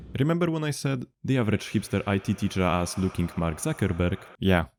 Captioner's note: reverb